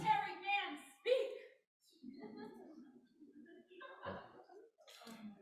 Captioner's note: laughter